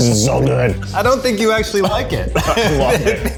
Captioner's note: laughs